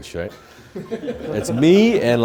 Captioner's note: laughing